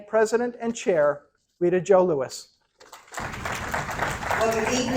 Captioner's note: applause